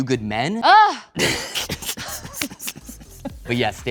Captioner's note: both laughing